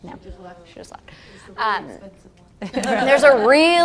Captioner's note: laugh